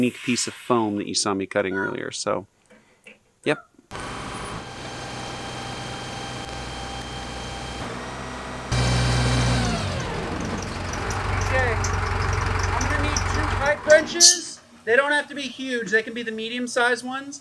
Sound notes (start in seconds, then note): 3.9 heavy machinery; 9.4 machine shuts off